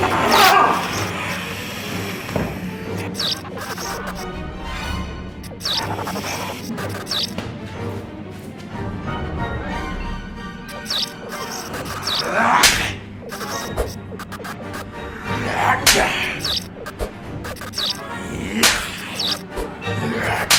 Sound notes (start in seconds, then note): 0.2 Dell moans; 0.2 suspenseful music; 3.0 lights buzzing; 5.4 lights buzzing; 5.4 vampire hissing; 10.7 lights buzzing; 12.1 hand slaps; 12.1 vampire growls; 13.1 vampire whooshing; 13.2 lights buzzing; 15.0 hand slaps; 15.0 vampire growls